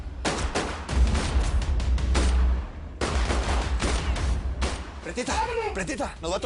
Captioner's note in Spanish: Disparos